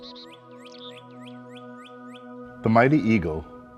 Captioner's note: birds chirping